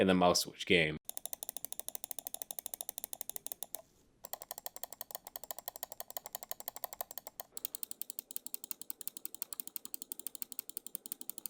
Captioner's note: mouse clicks